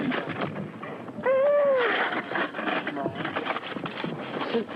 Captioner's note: baby crying